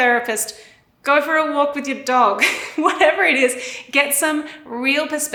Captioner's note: chuckles